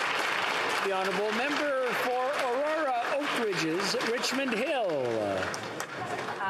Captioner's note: some Applause